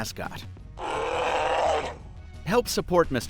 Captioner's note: bear roars